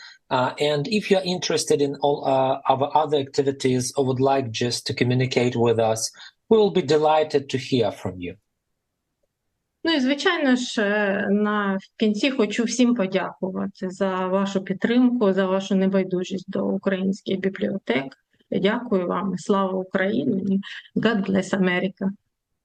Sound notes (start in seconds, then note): 9.1 foreign language